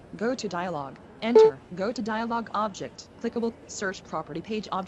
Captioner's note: beep